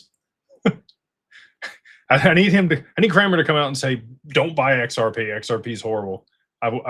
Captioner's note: laughter